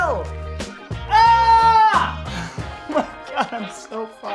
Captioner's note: shouts